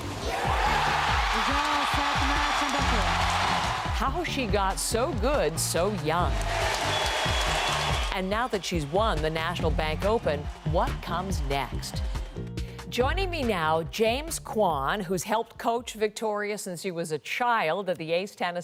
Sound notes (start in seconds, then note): 10.4 cheers and applause